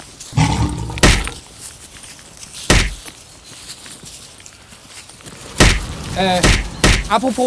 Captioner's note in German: Schläge, Löwengebrüll